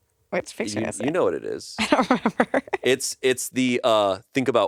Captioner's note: laughs